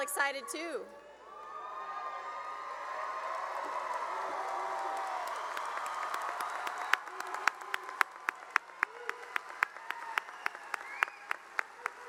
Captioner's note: cheering and applause